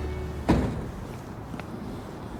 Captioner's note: car door